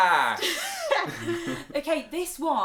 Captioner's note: laughter